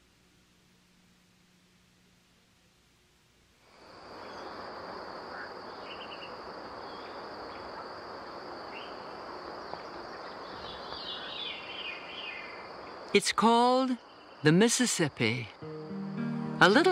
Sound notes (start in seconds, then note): 5.2 distant bird calls